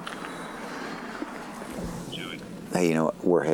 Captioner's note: on phone